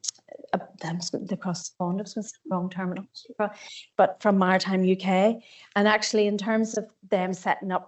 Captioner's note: audio distorts 35.35